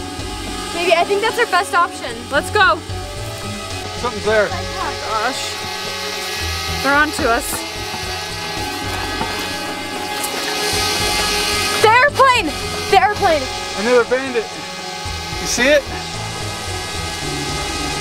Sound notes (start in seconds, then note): 8.7 drone buzzing